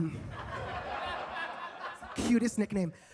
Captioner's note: audience laughs